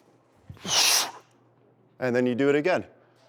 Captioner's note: inhales; exhales rapidly